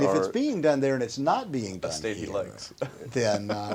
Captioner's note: chuckles